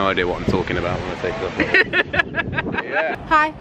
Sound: laughs

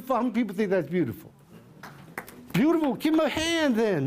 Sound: applause

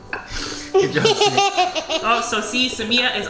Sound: laughing

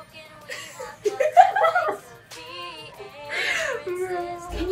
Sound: girls start loudly laughing

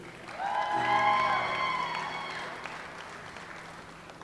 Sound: audience applauds

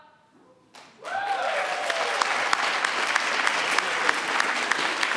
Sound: applause

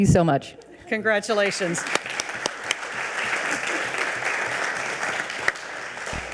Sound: audience applauding

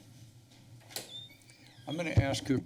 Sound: door opens

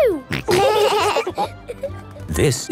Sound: laughing

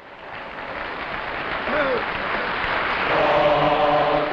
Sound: crowd applauds

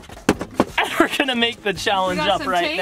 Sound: laughs

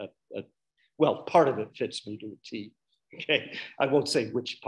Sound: chuckles

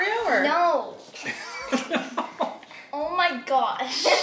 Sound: dad laughing

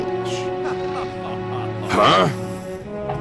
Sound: laughter

